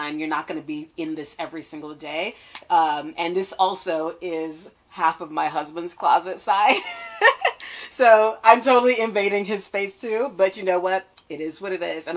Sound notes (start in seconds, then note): 6.8 laughs